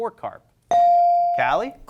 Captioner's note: bell rings